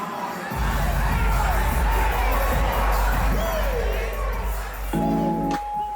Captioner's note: crowd chanting and cheering; lighthearted music